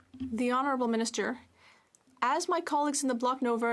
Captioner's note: speaking French